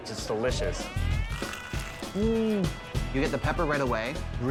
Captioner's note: chicken crunches; John hums